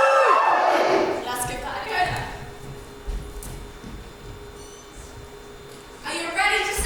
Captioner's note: audience woos